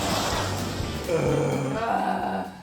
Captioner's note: motorcycle engine roaring; groans